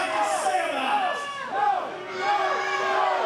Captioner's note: shouts